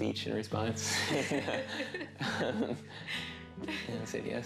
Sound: laughing

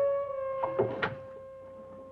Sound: thump

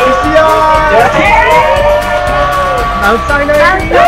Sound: cheering

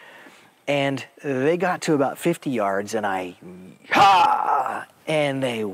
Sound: yells

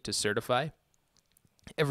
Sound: pause for Drama

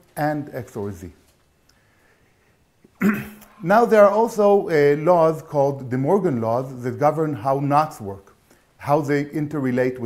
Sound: cough

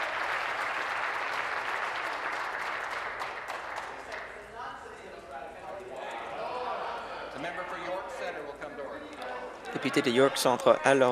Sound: applause

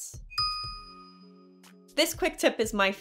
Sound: pause

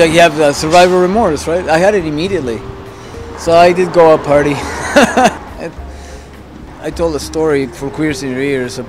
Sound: laughs

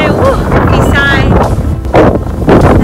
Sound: wind blowing loud in background

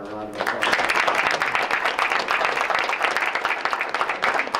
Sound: members applauding

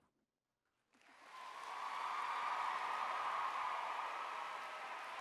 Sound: cheering

